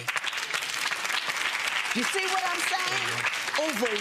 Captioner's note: audience applause